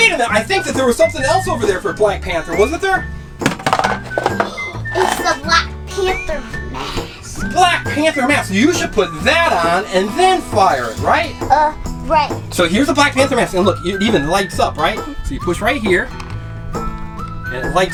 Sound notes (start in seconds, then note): 6.8 gasp